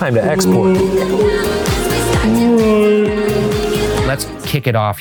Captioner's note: ghost exclaiming hauntedly